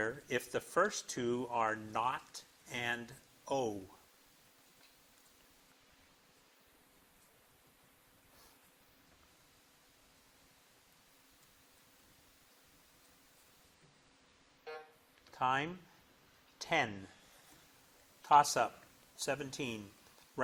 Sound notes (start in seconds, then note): 14.7 timber buzzes